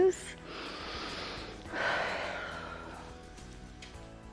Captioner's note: inhales and exhales